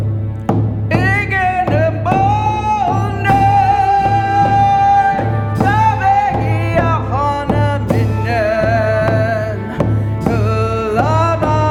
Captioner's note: In Mi’kmaq